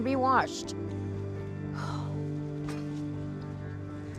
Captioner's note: sigh